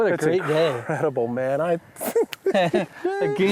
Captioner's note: laughs